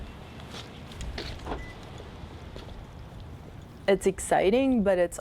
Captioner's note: car beeps